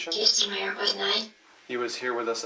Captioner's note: box mutters